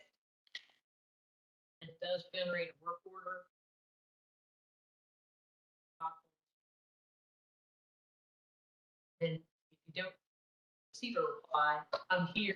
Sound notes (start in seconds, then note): 6.0 low voice